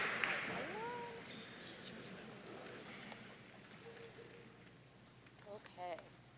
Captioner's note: participants chattering off microphone